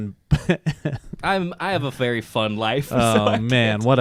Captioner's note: laughs; laughs